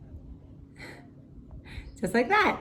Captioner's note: laughs